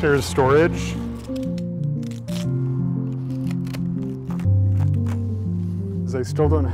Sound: tape ripping

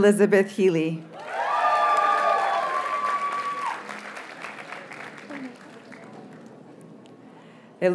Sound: audience cheers and applauds

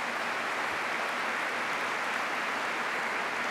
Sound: applause

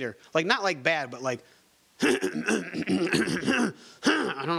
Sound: clears throat

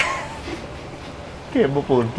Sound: laughs

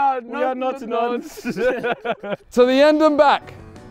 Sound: men laughing

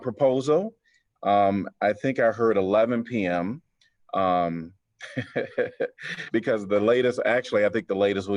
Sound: laughter

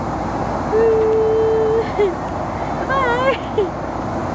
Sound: laughs

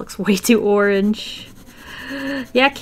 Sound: deep inhale

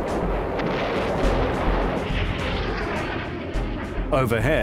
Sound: bomb explodes

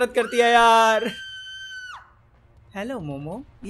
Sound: Momo screaming

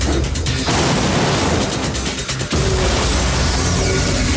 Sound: blow thuds

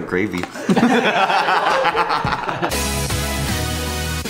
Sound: laughing

